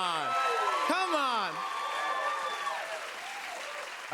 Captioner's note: cheers and applause